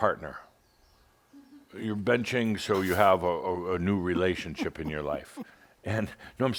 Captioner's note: giggles